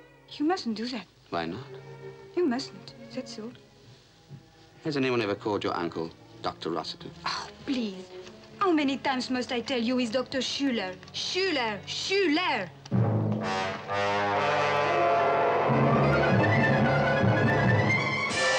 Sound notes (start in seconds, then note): 7.7 scoffs; 12.9 ominous orchestral music